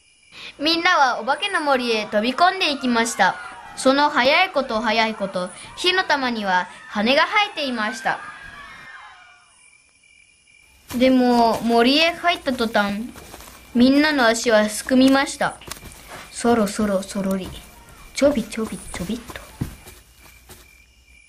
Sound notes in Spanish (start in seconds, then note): 16.2 sonido al caminar despacito